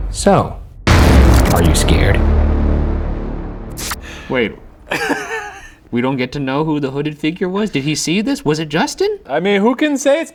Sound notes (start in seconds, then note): 0.8 dramatic, eerie music; 3.9 electrical buzzing; 4.9 laughing